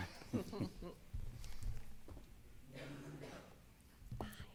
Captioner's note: laughter